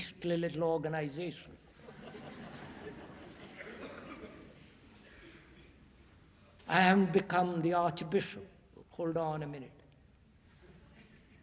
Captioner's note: laughter